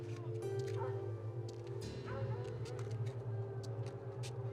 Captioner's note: distant dogs bark